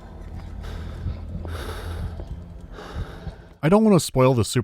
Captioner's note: Pierce's breath becomes laboured, sound of heartbeat fades in